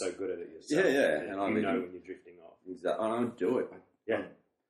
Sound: laughs

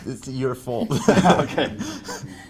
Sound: laughter

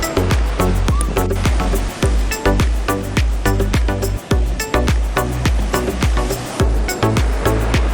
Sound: the sound of the waves is so good

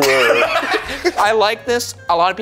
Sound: laugh

